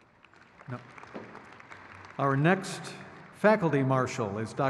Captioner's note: crowd cheers